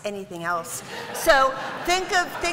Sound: laughter

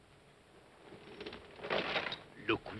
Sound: metallic rattling sound; irritated voice

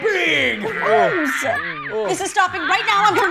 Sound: giggling on visor; animal lowing on visor

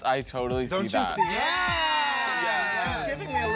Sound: screams

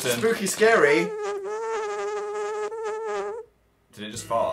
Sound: weird farting noise

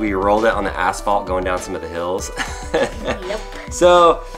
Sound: laughs

